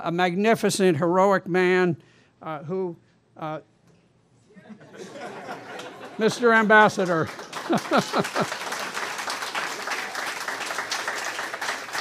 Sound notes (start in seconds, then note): 7.2 laughter; 11.2 applause